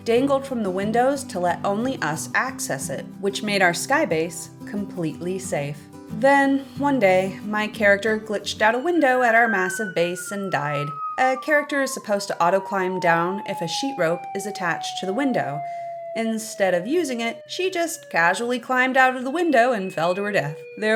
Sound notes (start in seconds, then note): 12.8 fading whistle; 15.0 fading whistle; 20.1 fading whistle